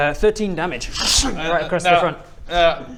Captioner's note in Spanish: ssschhung